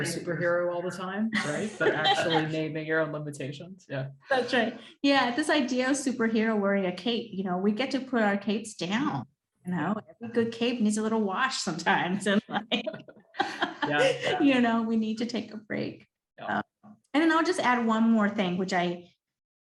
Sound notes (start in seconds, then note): 1.3 laughs; 12.2 both laughing